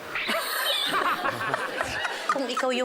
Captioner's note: laughter; silly sfx